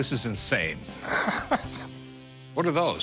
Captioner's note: Rick laughs